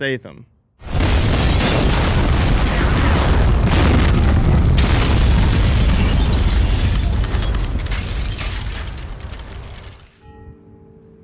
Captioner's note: explosions